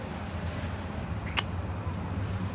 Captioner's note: kiss